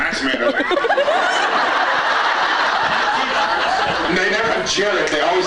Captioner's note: laughs